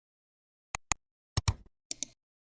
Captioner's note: 3 different clicks